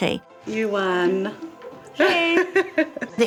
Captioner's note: laughs